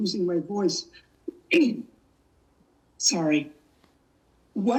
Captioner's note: clears throat